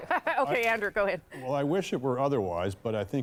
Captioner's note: laughter